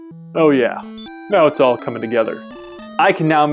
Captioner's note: Kronk Voice